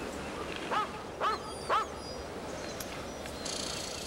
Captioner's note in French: Les aboiements de chiens